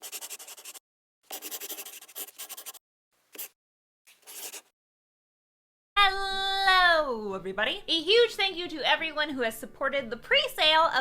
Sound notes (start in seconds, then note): 1.2 the sound of a pen scratching